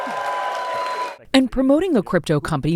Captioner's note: cheering